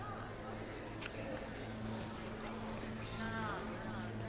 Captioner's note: clicking tongue